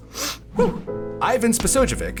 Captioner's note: inhales deeply